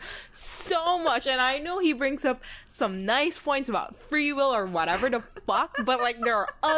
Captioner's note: laughing